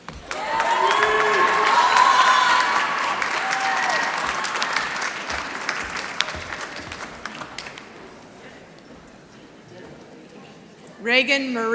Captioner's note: applause